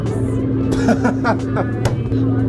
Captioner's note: laughing